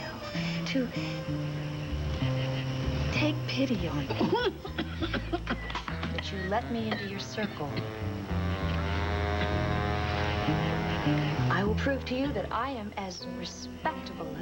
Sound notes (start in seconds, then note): 5.7 elizabeth coughs